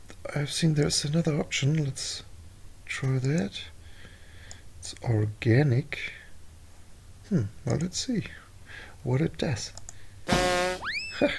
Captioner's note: giggles